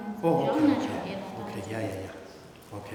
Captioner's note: speaking tibetan